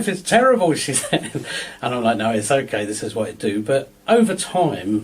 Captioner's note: laughs